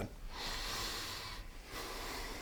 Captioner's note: breathes deeply